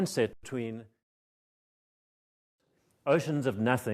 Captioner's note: audio fades out, silence